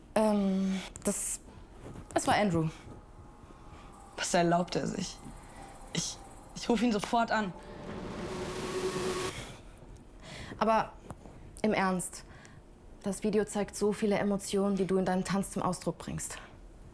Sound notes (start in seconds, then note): 7.9 distorted sound